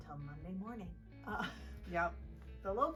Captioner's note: laughing